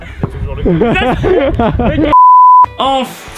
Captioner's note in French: éclate de rire; musique rock